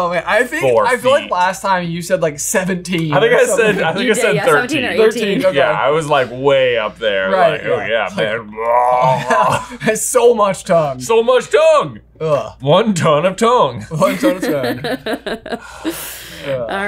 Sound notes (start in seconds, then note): 8.6 exclaims; 8.9 chuckles; 14.1 chuckling